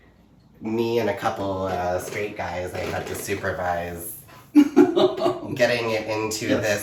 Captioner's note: laughs